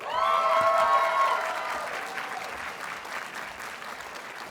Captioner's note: audience cheers and applauds